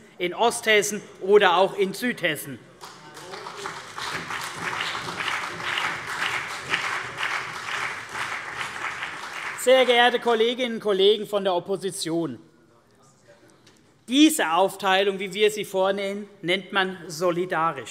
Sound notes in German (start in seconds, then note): 2.8 Beifall CDU und BÜNDNIS 90/DIE GRÜNEN